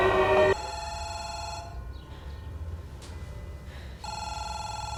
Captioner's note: phone ringing